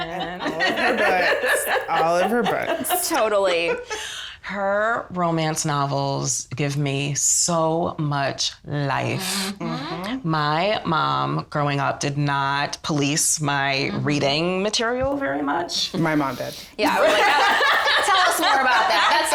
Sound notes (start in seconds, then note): 0.0 all laughing; 16.7 all laughing